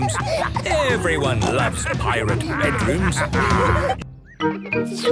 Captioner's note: laughter